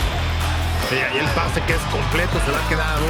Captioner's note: Spanish